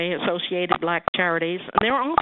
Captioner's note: beeping on the line